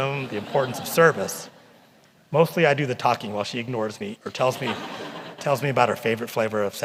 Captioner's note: laughter